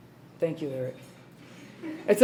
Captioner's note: laughs